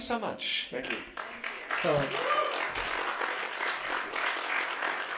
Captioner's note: applause